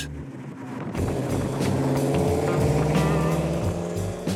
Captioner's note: engine revs; upbeat music